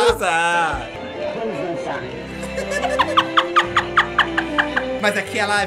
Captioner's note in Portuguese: risos